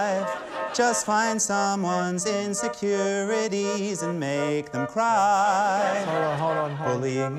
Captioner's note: laughter